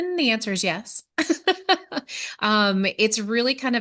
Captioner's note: laughter